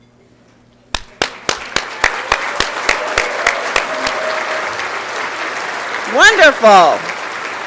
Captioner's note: applause and Cheering